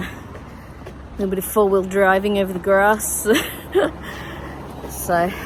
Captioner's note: scoffs